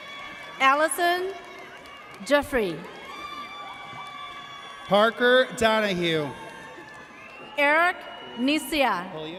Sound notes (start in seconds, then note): 3.3 audience cheers